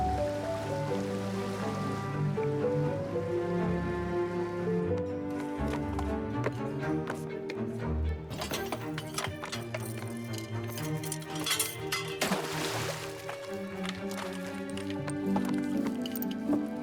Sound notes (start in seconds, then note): 8.4 metal clattering; 11.3 splashing